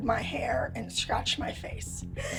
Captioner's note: crying